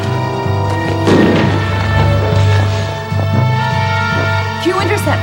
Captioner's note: explosion booming